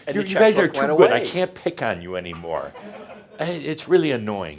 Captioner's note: some chuckles